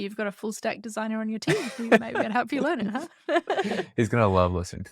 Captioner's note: laughs